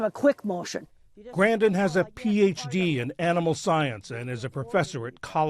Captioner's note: voice-over